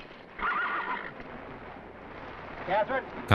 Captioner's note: horses whinnying